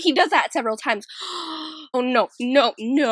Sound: le gasp

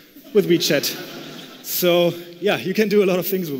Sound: laughter

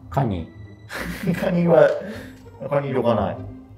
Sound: laughing

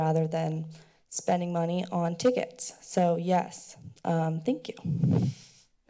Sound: breathes

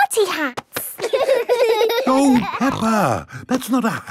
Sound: laughing

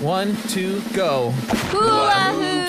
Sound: laughs

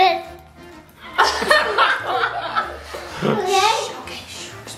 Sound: all laughing

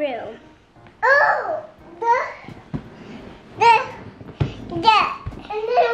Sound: speaks gibberish

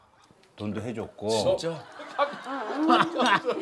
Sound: laughing

